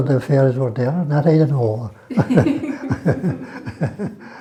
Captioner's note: laughter